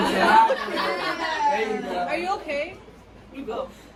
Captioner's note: laughter